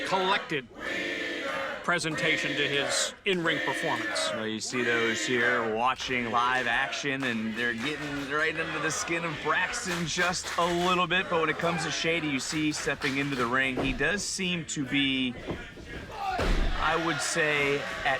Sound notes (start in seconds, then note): 3.6 crowd chants "Wiener"